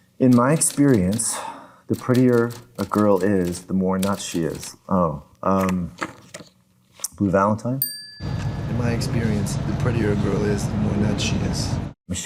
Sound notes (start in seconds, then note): 7.8 bell dings